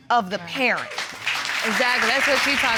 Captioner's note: audience applauds